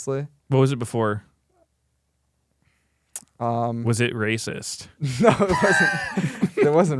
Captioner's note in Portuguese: risos